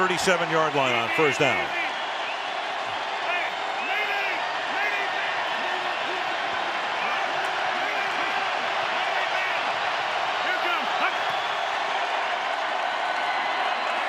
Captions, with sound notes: From the 37-yard line on first down. [crowd cheering]